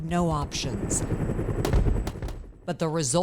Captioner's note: helicopter rumbling muffling; gunfire rattling muffling